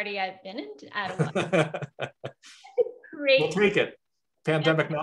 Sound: laughs

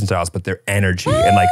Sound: gasps

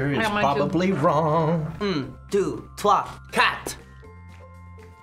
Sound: sing-song

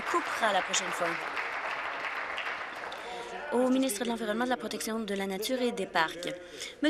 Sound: applause

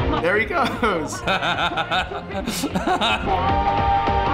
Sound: laughs

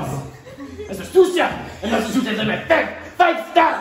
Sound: french gibberish

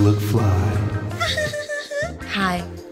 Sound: giggles

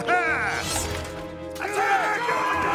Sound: yelling

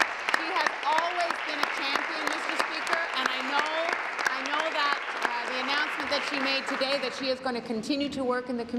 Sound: applause

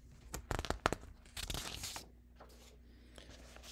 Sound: paper rustling

